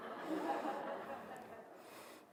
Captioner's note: laughter